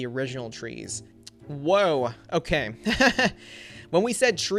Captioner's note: laughs